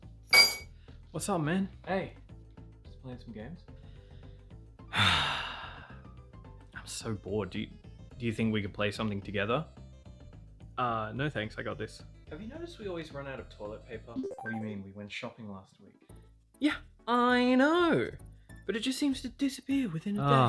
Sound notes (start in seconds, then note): 4.9 sighs